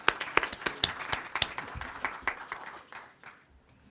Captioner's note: crowd applauding